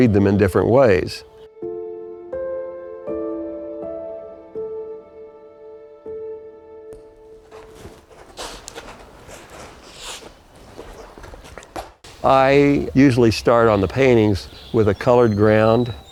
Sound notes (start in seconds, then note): 3.5 soft piano music ends; 7.3 brush on canvas